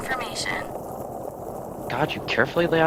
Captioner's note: vehicle sounds